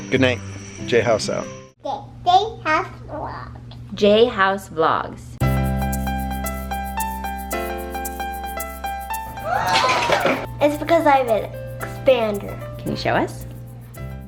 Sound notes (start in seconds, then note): 2.1 talking; 5.4 upbeat piano music